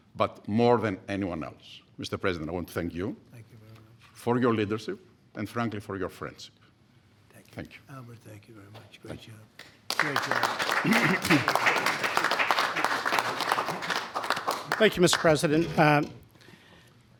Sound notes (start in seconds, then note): 9.6 applause